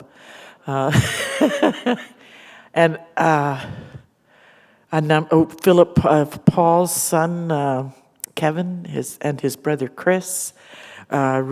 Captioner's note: laughter